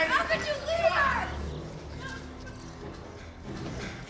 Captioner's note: crying